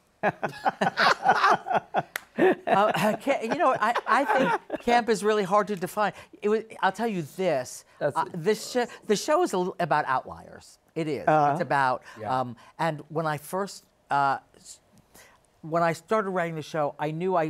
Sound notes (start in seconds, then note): 2.1 laughter